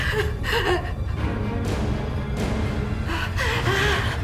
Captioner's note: Cheryl gasping